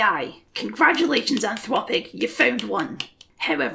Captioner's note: sarcastic clapping